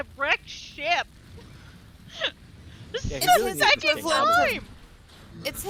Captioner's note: laughs